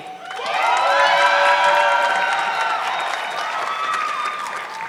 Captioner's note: audience clapping